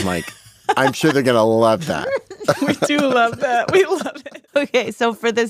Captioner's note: laughs